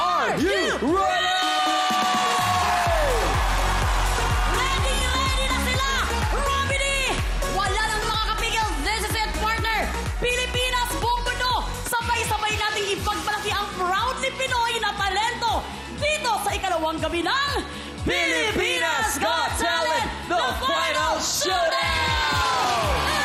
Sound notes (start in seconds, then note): 3.3 cheering; 3.3 upbeat music playing